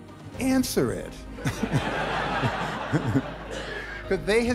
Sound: laughter

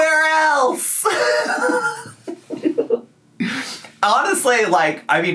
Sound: laughing

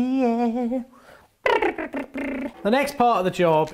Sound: blowing lips together

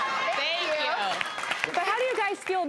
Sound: applause

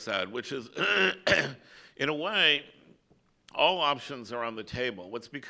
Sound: coughs

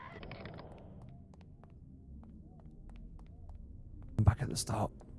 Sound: cawing

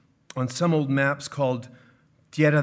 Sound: speaking in foreign language

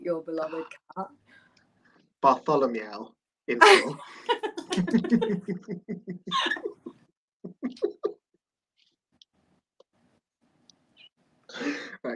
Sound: laughter

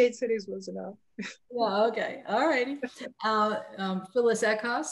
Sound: chuckles

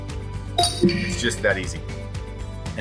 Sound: computer chimes

